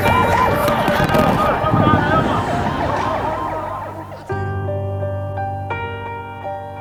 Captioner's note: men shouting; sirens blaring